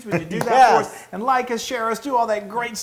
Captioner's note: laugh